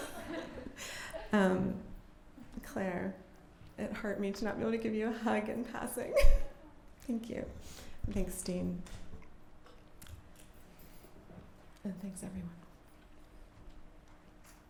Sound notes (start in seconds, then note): 0.0 laughter; 6.2 laughs